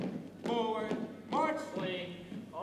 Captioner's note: boots thumping